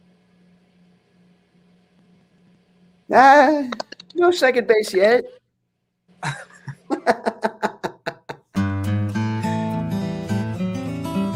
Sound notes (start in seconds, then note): 6.2 laughing; 8.5 upbeat music